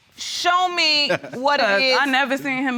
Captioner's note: chuckles